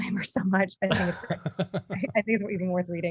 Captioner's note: laughing